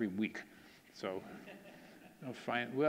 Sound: audience laughing

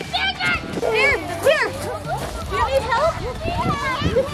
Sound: people talking

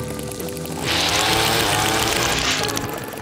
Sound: reef blower blows

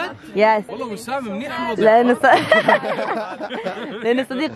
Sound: all laugh

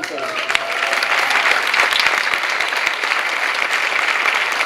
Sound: clapping

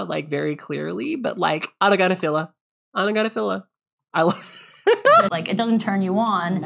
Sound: laughs

